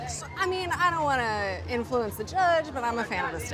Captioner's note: none